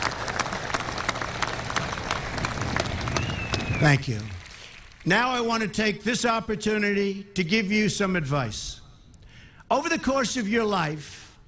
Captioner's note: applause